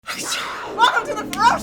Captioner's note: hisses